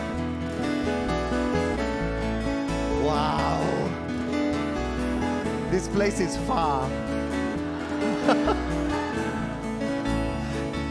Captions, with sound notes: - This place is far. [chuckles]